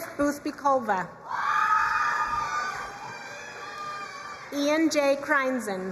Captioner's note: crowd cheering and applauding